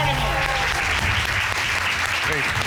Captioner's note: cheers and applause